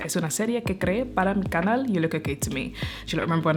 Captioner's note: in Spanish